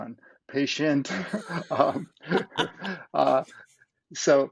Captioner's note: laughs